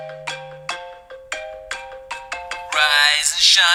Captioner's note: phone rings